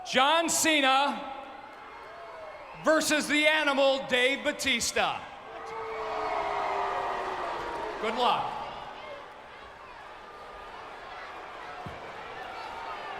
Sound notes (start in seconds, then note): 5.4 crowd booing; 10.1 crowd chattering